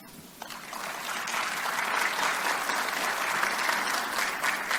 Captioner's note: audience clapping